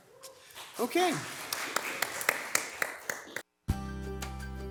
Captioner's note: all applauding; bright music